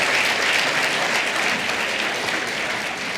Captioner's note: applause